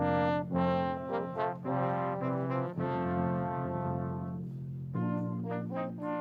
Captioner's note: none